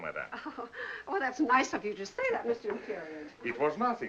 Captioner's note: chuckles